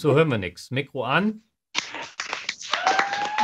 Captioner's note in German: Applaus